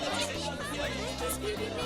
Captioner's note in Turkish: Tartışma sesleri